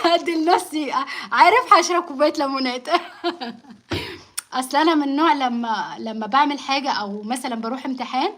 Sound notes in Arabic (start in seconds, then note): 2.9 ضحك; 3.9 تنحنُح